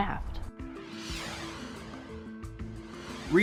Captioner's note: soft music; air whooshes